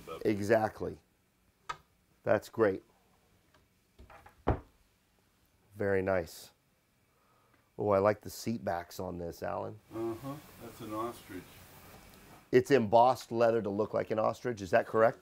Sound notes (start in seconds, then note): 4.0 door closing